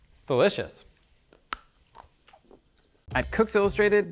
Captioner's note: chocolate bar snaps